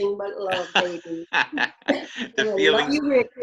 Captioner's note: laughs